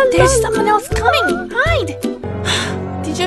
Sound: Audrey sighs

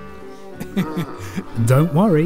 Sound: chuckles

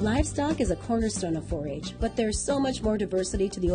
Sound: voiceover

